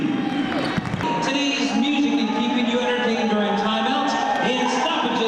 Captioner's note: applause